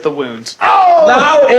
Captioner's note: confused agony